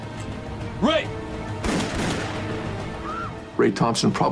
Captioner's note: gun fires